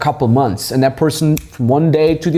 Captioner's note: snapping fingers